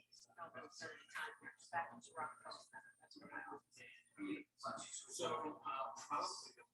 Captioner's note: people chattering indistinctly